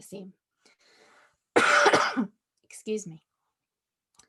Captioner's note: coughs